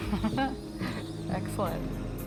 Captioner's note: laughs